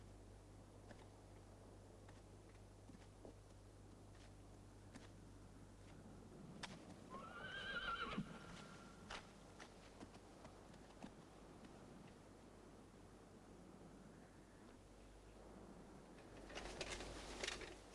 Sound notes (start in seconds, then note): 7.1 horse whinnies